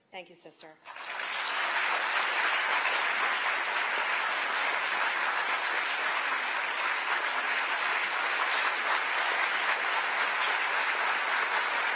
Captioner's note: applause